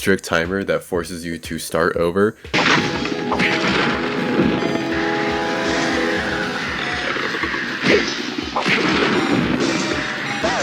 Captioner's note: nice, crunchy game audio. goes dwing dwing chakoo